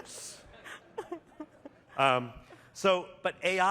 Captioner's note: laughter